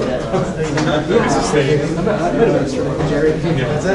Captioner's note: classroom chatter